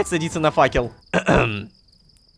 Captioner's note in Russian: Кх-кхм